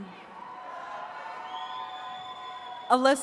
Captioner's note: attendees cheering